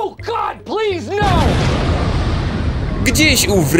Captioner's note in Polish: boom!